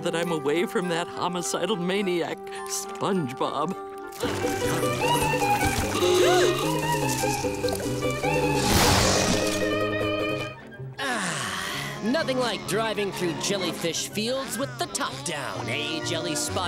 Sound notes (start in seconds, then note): 4.5 gasping